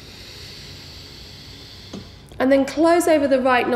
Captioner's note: heavy breathing